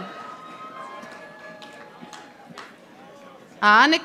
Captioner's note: audience applauding